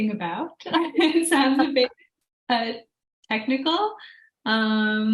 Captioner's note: laughs